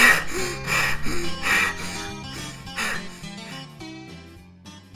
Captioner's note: heavy breathing and panting